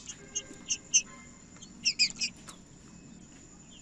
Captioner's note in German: trinca ferro cantando